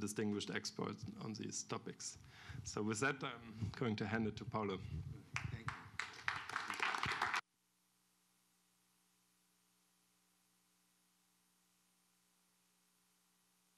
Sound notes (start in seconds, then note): 7.8 applause; 10.7 pause